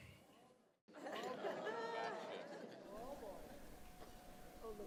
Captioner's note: general chatter